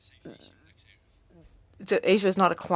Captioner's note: speaking French